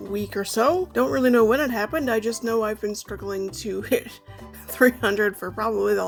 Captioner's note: chuckling